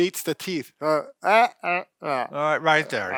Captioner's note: makes strange mouth noises